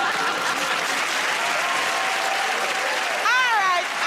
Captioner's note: laughter; cheers and applause